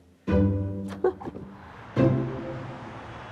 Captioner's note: laughs